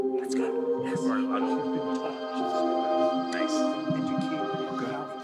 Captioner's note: members chattering